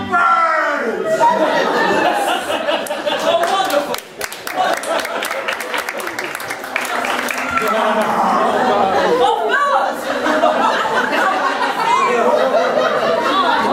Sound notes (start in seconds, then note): 1.4 audience laughing; 4.5 audience clapping; 10.0 audience laughing